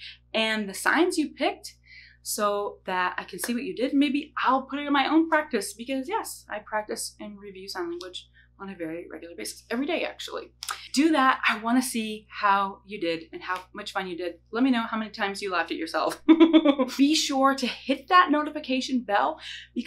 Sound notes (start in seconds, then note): 16.2 laughs